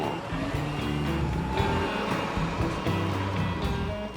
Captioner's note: car beeping